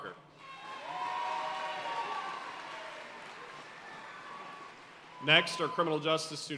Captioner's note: audience cheering and applauding